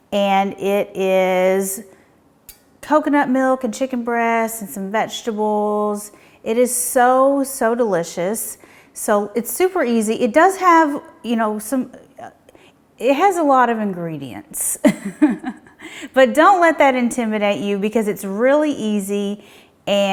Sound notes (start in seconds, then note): 14.9 laughing